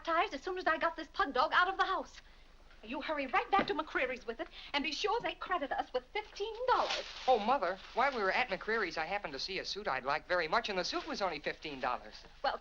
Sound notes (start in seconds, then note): none